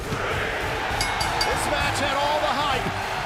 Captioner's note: bell ringing